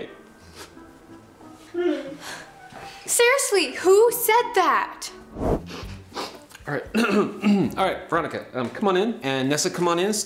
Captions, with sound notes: [cries] Seriously, who said that? [sobbing] Alright. [Clears throat] Alright. Veronica, um, come on in and Nessa, come on in.